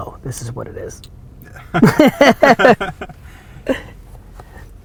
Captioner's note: laugh